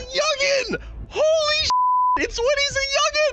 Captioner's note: beep